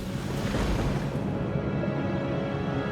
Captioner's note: thunder crashing